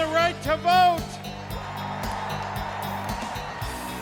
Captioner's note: cheers and applause